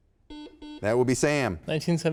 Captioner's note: buzzer sounds